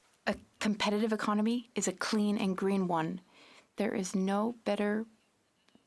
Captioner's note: speaking French